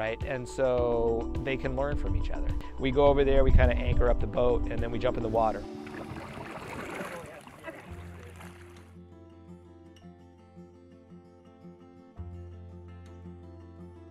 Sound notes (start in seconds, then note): 5.6 water splashing; 8.5 calm upbeat music